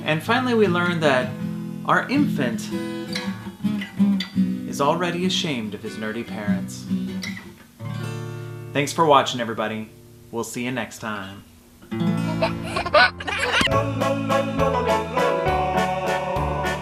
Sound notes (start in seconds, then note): 11.9 guitar strum; 12.1 giggles; 12.3 accordion music